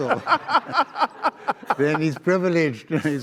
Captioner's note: audience laughs